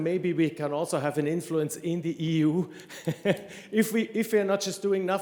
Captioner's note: chuckles